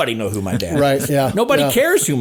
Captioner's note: chuckling